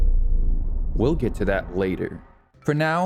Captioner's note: ominous noise plays